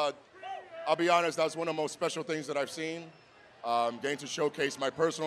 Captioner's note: cheering